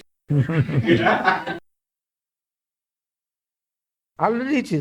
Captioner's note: laughs